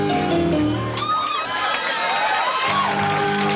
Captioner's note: fast paced piano chords; audience clapping and hollering; fast paced piano chords